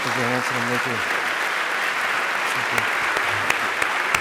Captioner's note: applause